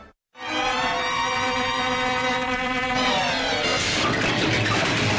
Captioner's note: whimsical music; mosquito buzzing; ladder clattering